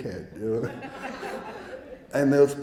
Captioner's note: audience laughing